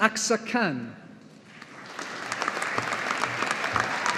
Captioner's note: audience applauding